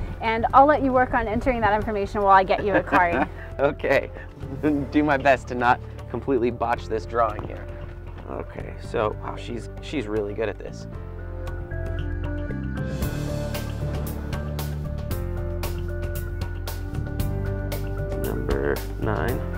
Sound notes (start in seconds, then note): 2.5 laughs; 10.9 exciting music